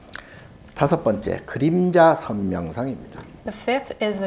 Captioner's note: speaking Korean